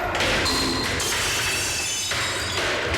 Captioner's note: shattering